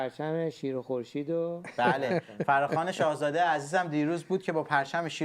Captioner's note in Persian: خنده